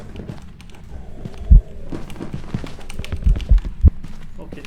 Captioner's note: footsteps nearby and rapid acceleration